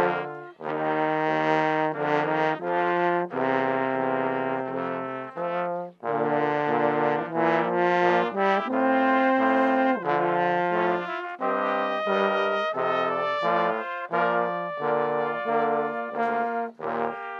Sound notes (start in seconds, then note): none